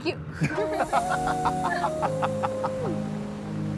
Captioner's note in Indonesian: Ketawa